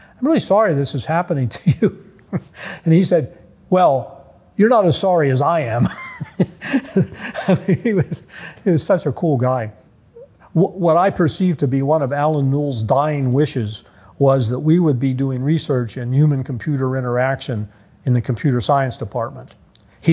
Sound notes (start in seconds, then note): 2.2 laughing; 5.6 laughing